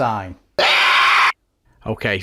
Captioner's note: loud Scream